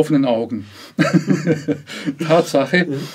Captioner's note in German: Lach Geräusch